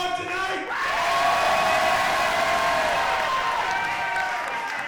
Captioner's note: crowd cheering